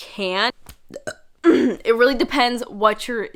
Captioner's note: burps